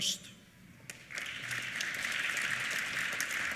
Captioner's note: applause